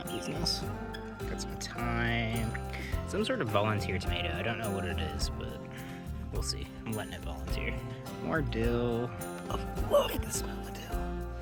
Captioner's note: birds chirping